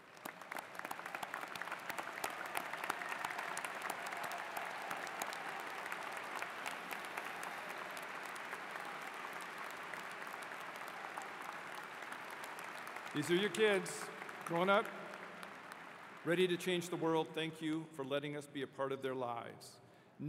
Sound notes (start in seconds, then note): 1.8 applause